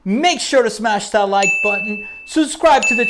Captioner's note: beep